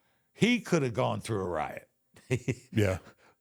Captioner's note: chuckles